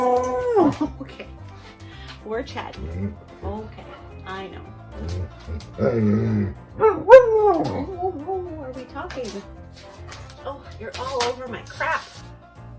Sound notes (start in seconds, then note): 4.9 all the barking and Awoos